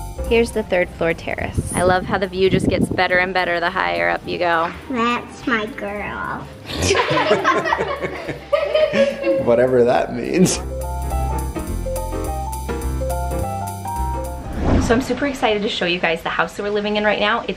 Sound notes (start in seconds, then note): 6.7 everybody laughing; 10.3 up beat music